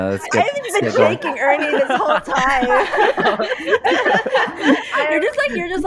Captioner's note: laughter; pause for more laughter